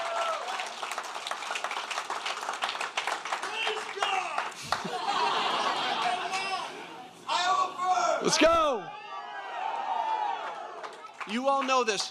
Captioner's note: applause